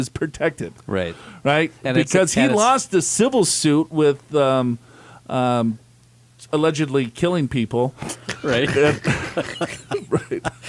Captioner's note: laughs